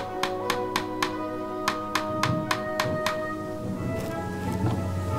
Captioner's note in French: Musique inspirante; marteau qui tape sur les clous; tonnerre qui gronde au loin